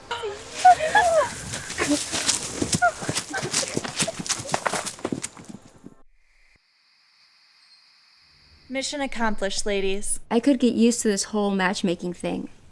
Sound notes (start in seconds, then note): 0.0 girls giggling; 0.0 girls snickering; 4.6 leaves rustling; 6.3 crickets chirping